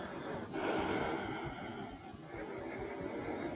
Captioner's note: none